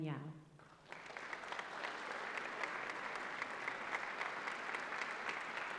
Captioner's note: applause